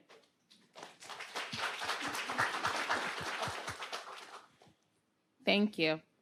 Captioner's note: attendees applauding